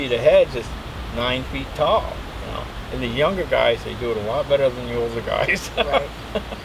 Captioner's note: chuckles